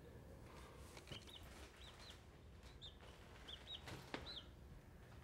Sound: chick peeping

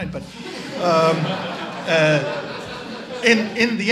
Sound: audience laughs

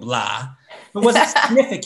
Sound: laughs

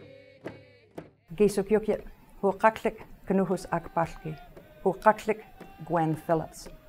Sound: speaking Ktunaxa language

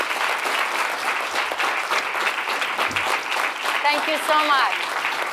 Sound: audience applauding

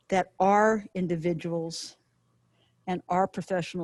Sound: none

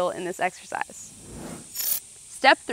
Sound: screen whooshing

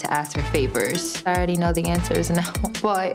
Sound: laughing

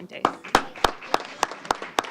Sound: applause

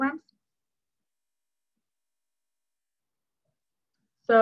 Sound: silence

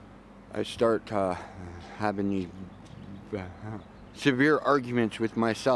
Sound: chuckles

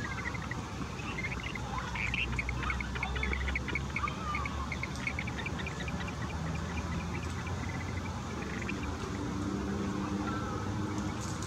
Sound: birds chirping

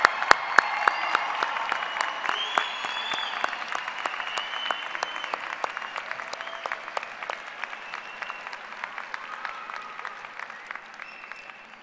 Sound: applause

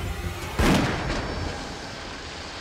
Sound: gunshot

